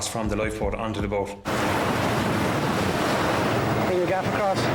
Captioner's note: waves crashing